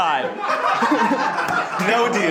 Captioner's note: group laughing